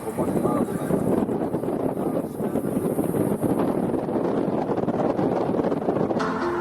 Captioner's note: the wind makes its presence noticed